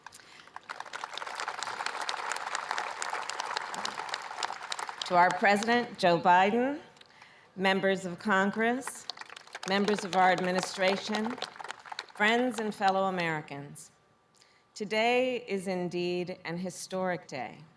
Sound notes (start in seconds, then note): 0.0 applause; 8.6 applause